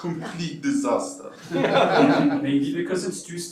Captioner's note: laughter